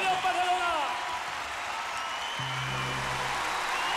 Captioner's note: cheering and applause